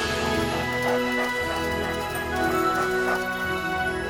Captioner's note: dogs panting